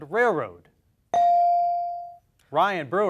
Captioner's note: beep